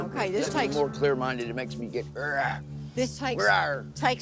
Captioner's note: growls